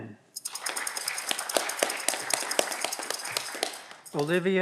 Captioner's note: audience clapping